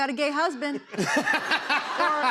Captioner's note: laughter